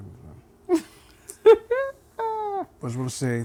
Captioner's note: laughing